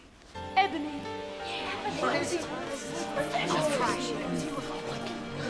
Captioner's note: people murmuring